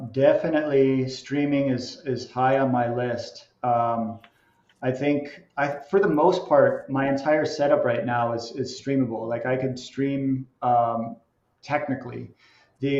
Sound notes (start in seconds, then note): none